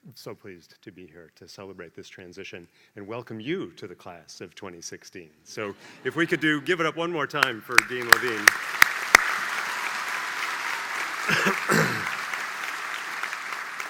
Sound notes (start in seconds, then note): 7.2 applause; 11.2 cough